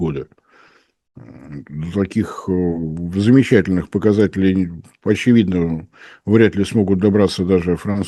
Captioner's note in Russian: фыркает